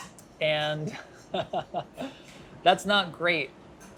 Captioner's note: laughing